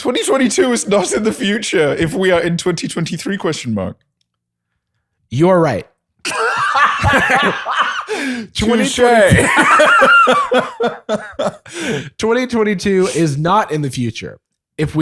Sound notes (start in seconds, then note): 9.2 laughter